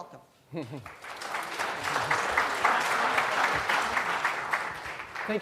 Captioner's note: applause